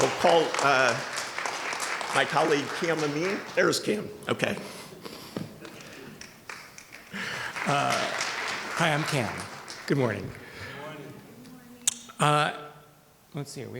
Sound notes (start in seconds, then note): 7.4 audience clapping